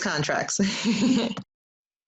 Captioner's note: chuckles